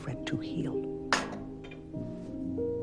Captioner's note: Serena's cup clangs against the glass table